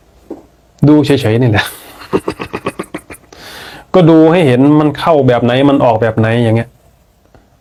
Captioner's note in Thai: เสียงหัวเราะ